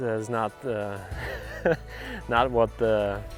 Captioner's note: laughter